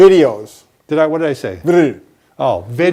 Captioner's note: mumbles